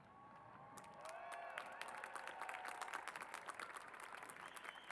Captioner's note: cheers and applause